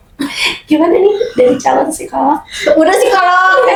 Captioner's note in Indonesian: berdehem